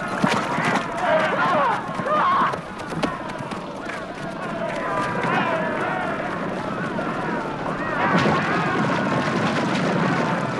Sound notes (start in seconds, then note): 3.4 raider shouting